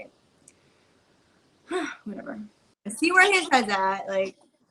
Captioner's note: sighs